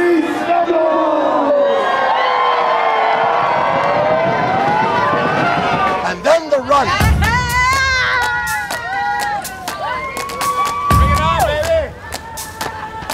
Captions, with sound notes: Release the Bulls! (crowd cheering) - And then, the run! (skaters screaming)